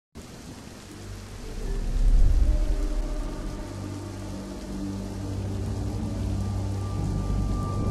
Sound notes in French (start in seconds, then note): 0.1 Pluie